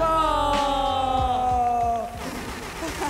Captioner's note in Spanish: Aplausos